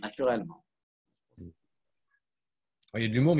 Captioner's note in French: coupure audio